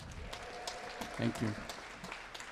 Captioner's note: audience applauding